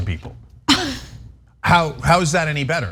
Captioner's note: laugh